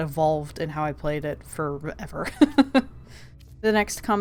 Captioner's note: laughs